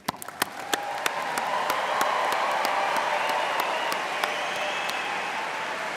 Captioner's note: audience cheering and applauding